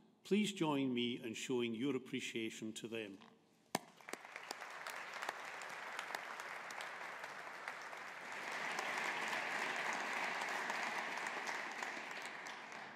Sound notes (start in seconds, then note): 3.8 audience applauding